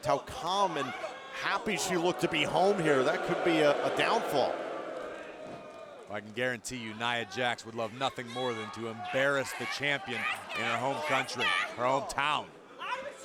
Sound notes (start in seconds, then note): 5.1 crowd boos